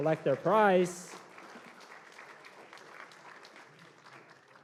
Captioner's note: applause